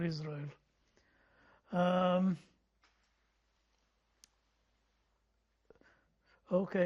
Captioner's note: pauses 6 seconds